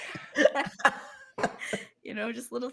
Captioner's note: all laughing